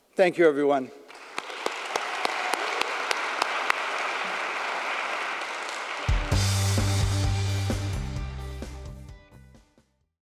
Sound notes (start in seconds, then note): 1.0 audience applauding; 1.1 claps